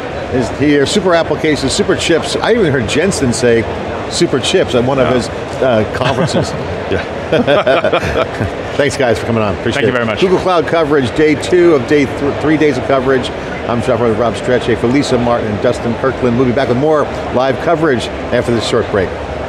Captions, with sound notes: super applications, super chips. I even heard Jensen say super chips on one of his conferences. >> Wow, yeah. (group laughing) >> Thanks, guys, for coming on. Appreciate it. >> Thank you very much. >> Google Cloud coverage, day two of three days of coverage. I'm John Furrier with Rob Strechay, Felisa Martin, Dustin Kirkland. We'll be back with more live coverage after this short break.